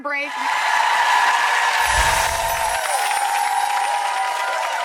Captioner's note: audience applauds